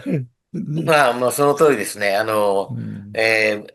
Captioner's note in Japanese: 咳払い